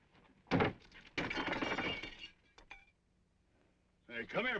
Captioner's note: glass breaking